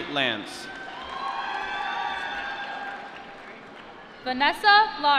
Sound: applause

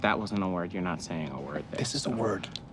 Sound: none

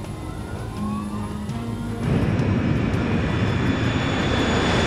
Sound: plane engine roars

